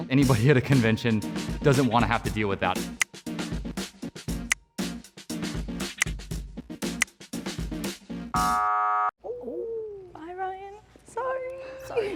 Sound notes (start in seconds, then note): 3.1 click; 4.0 upbeat music; 4.8 click; 8.0 upbeat music; 8.4 buzzer